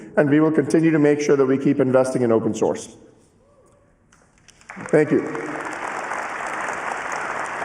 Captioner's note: cheering and applause